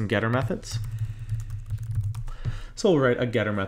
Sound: keyboard clicking

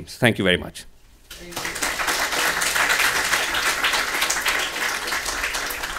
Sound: applause

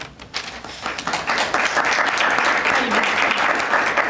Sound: applause

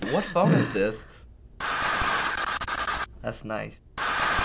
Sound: screechy static

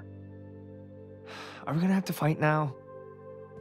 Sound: sighs

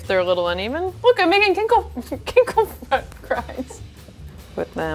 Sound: giggles

